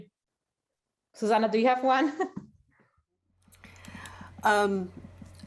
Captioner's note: laughter